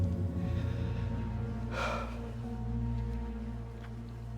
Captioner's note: Joe breathes shakily